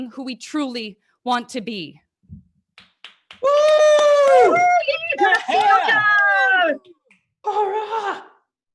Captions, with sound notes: who we truly want to be. (everyone cheering) - Korra!